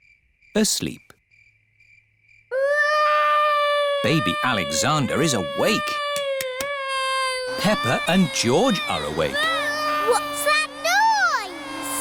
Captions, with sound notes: Asleep. (BABY ALEXANDER CRYING) Baby Alexander is awake. Peppa and George are awake. -(VACUUM CLEANER WHIRRING) -What's that noise?